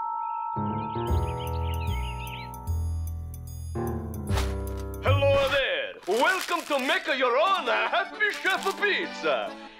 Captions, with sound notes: (Italian accent) HELLO THERE! WELCOME TO MAKE YOUR OWN HAPPY CHEF PIZZA.